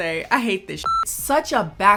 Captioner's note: beep